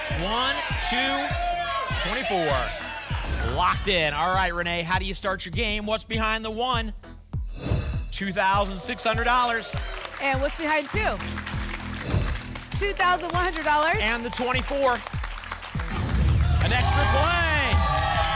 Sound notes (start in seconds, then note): 7.5 whoosh; 12.0 whoosh; 15.8 boom